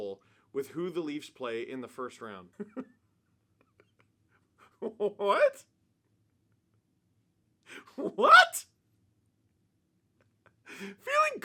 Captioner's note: laughter